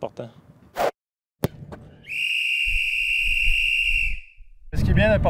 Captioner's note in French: sifflet